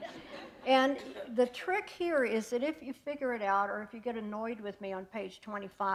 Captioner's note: laughter